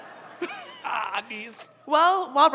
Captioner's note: groans